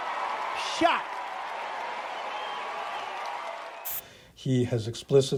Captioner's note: audience applauding